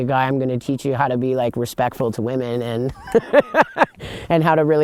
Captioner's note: laughs